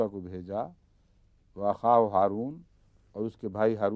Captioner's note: Arabic